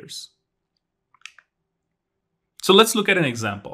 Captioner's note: remote clicking